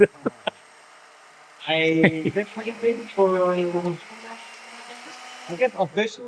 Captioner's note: laughing; blender Whirring